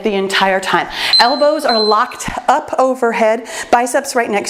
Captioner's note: timer beeps